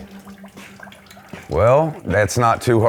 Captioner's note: water dripping